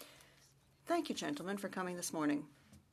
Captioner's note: speaking French